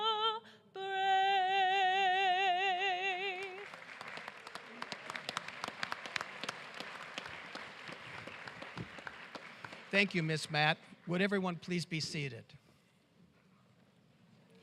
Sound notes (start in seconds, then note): 6.3 cheers and applause